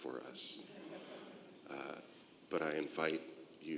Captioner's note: congregation laughing